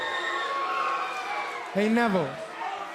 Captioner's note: cheering